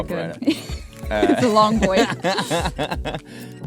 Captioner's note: laughing; laughs